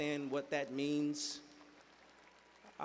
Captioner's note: applause